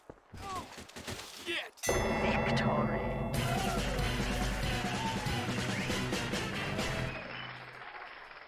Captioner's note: TF2 victory sound effect and fanfare